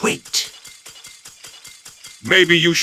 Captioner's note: surrender noises